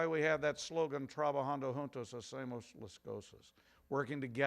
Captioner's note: speaks in Latin